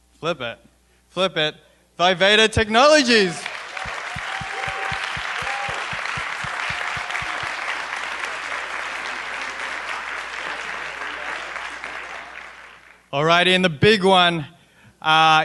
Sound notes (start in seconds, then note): 3.3 applause